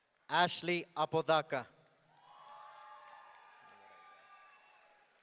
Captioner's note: audience cheering